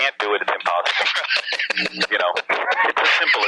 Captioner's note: laughing